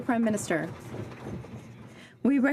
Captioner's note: some Applause